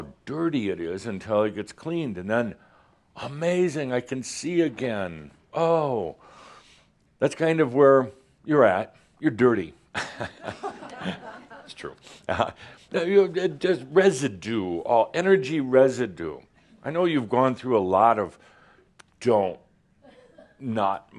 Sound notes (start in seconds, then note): 9.9 some chuckles